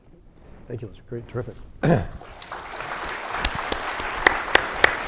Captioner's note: audience applauding